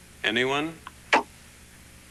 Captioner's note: pop sound